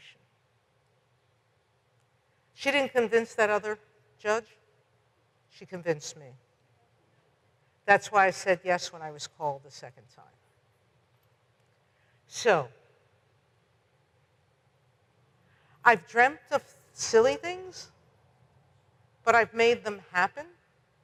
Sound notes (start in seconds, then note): none